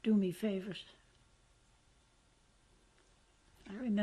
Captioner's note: pauses for 3 seconds